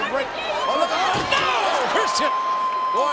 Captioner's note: steel rattling